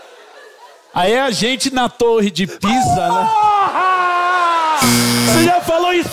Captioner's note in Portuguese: grita; campainha